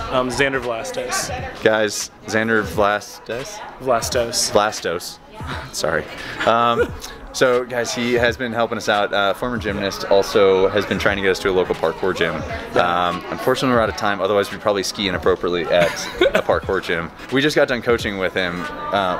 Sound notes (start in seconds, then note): 6.1 chuckles; 15.7 chuckling